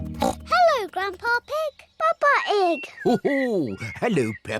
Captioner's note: oinks